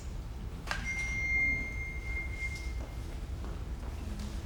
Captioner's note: text message tone